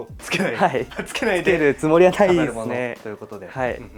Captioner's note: laughs